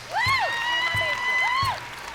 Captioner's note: applause and cheering